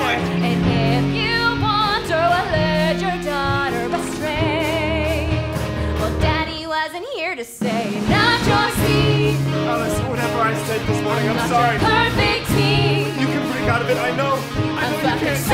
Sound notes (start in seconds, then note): 11.1 talking